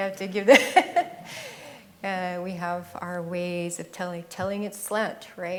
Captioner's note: laughs